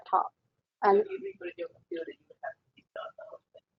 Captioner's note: talking